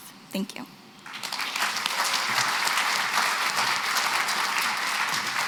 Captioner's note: applause